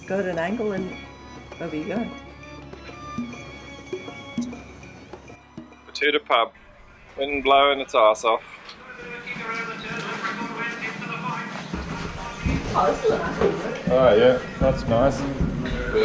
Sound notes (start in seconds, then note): 10.4 loud horse racing on the radio